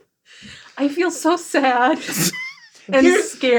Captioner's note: everybody laughs